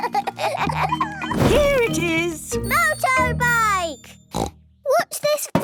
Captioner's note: snort